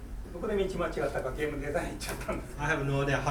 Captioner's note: speaking in foreign language